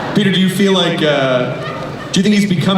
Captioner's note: voiceover